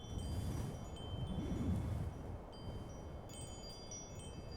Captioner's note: wind blowing